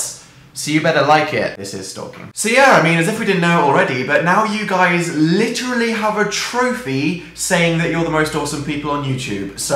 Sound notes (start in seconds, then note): 1.8 quietly